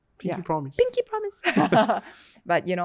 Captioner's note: laughs